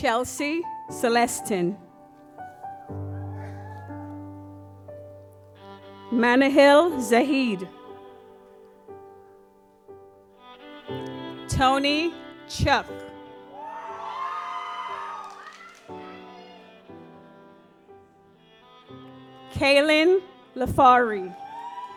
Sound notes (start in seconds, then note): 2.3 gentle music; 8.0 gentle music; 13.5 audience applauds; 17.3 gentle music